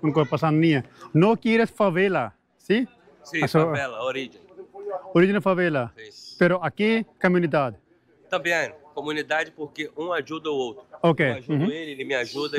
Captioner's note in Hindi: स्पेनिश में बोलते हुए